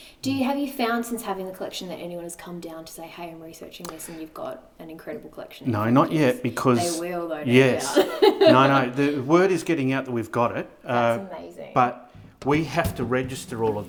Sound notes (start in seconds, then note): 7.5 laughing